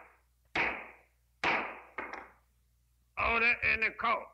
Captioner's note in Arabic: ضربات قوية